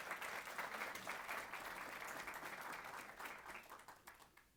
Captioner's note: applause